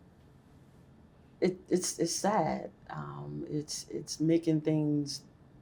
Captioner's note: scoffs